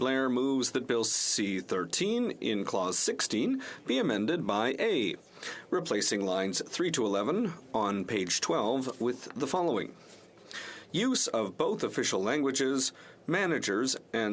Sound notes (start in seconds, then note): 1.5 speaking French